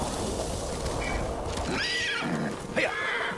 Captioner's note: horse neighing